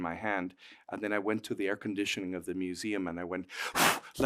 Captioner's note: blows